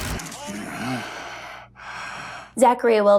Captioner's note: grunting